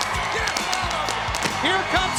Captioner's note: crackers exploding